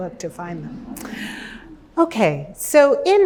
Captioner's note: laughter